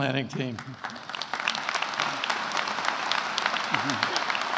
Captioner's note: attendees applauding